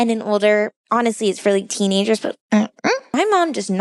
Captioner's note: dismissive noise